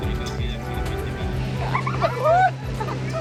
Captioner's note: laughing